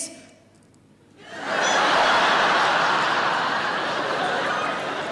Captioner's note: audience laughing